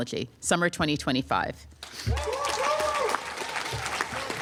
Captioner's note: applause